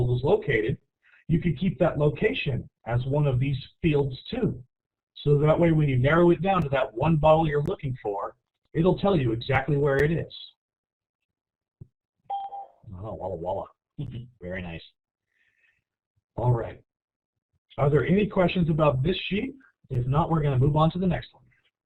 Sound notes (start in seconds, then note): 12.3 bell rings; 14.7 chuckles